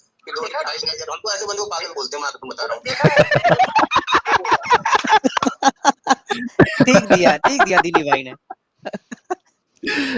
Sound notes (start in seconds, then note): 2.8 laughter all around; 8.8 laughter